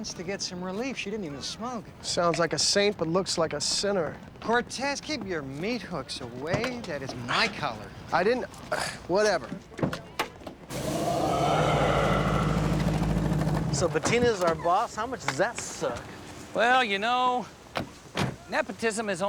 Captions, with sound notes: and cancer patients to get some relief. She didn't even smoke. Sounds like a saint, but looks like a sinner. Cortez, keep your meat hooks away. That is my collar. I didn't... (scoffs) Whatever. (recording of deep growling plays) So, Bettina's our boss. How much does that suck? Well, you know, nepotism is only